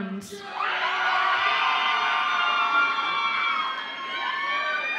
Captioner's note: audience applauds and cheers